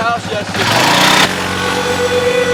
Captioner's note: ATV engine whirring; eerie suspenseful music